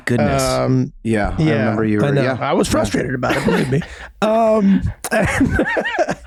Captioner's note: laughs